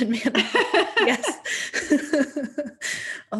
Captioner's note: laughing; laughs